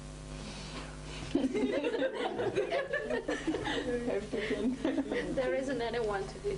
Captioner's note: laughing